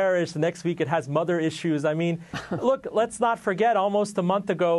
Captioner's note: laughter